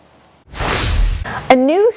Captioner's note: graphics whooshing